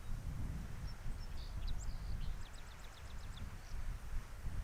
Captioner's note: birds singing